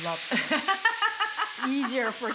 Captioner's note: laughs